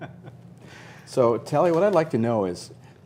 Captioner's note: laughter